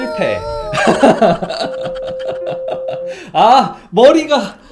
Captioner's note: laughs